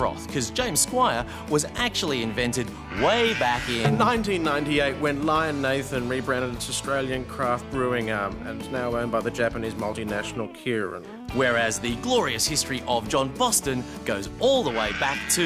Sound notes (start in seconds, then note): none